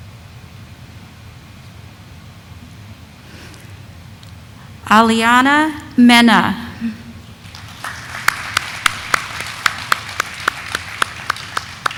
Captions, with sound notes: Aliana Mena. (audience applauding)